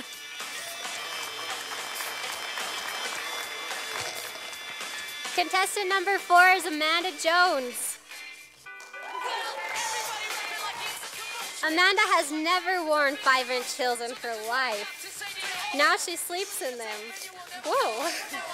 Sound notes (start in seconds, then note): 0.5 sound of applause from audience; 8.9 sound of cheering from audience